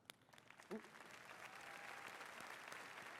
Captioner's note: applause